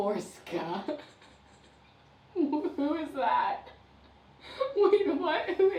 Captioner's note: laughs